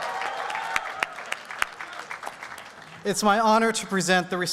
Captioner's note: applause and cheering